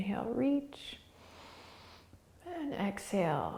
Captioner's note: inhaling